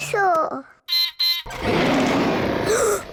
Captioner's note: beeps and roars; gasps and cries